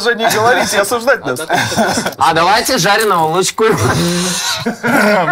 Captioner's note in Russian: смеется